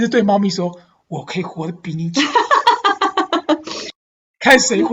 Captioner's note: ha ha ha